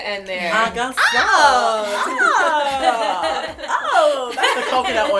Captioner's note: laughter